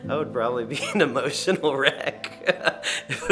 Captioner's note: laughing